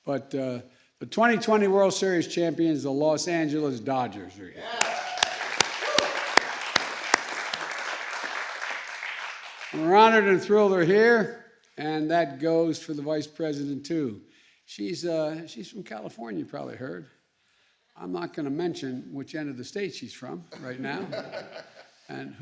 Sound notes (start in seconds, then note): 4.6 applause; 20.5 laughter